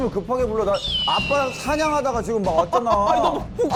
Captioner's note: eagle screech sound